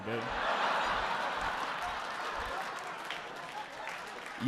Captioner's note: audience laughing